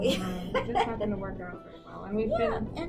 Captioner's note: laughs